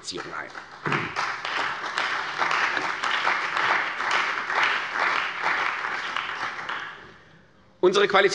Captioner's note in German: Beifall bei der CDU und dem BÜNDNIS 90/DIE GRÜNEN